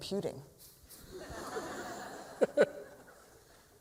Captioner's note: laughter